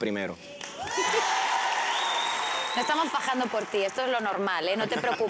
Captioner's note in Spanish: gritos y exclamaciones